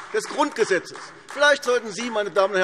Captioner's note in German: Beifall AfD